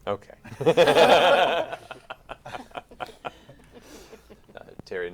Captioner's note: laughter